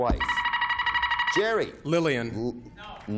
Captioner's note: buzzer beeping